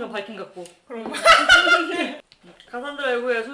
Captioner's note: laughing